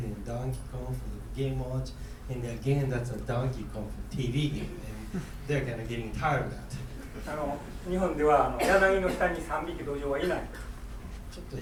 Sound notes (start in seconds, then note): 7.3 speaking in foreign language; 8.5 coughing